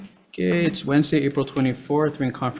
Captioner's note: gavel banging